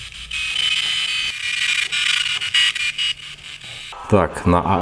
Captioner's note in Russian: Радиошум